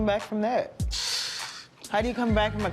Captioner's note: sighs